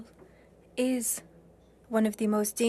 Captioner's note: speaking French